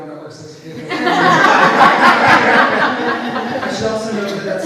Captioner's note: audience laughs